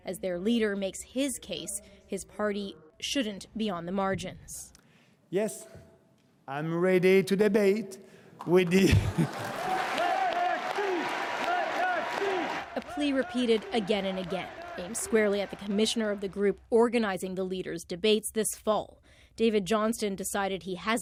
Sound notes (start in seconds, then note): 8.4 applause